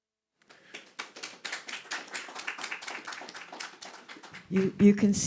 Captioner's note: group applauding